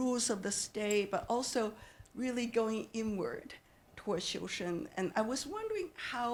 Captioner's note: speaking Chinese